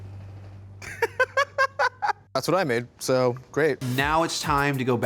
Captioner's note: laughs